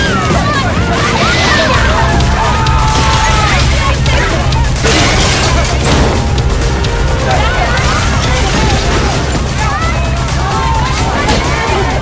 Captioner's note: all screaming